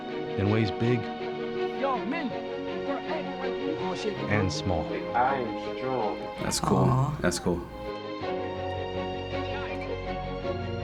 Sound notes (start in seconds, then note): 4.4 voice-over